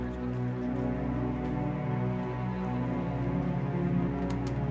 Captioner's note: crowd murmuring